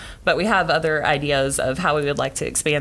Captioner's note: none